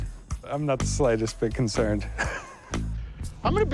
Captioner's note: laughs